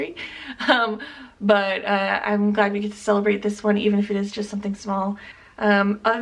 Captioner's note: chuckle